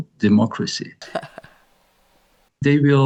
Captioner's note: chuckles